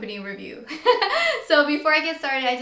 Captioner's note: laughs